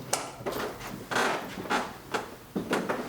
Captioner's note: creaking